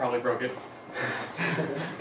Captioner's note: laughter